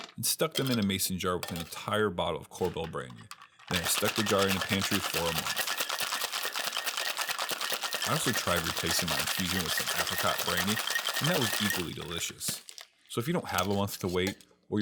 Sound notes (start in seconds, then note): 5.9 cocktail shaker clanking